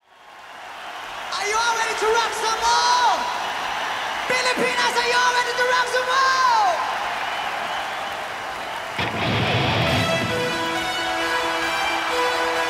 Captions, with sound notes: (audience cheers) - Are you all ready to rock some more? (audience cheers) Pilipinas, are you all ready to rock some more? (audience cheers) (rock music)